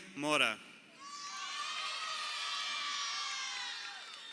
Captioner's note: crowd cheering